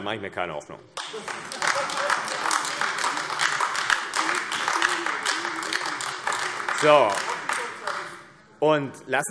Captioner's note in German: Heiterkeit und Beifall AfD